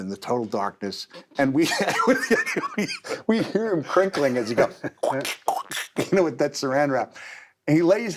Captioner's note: laugh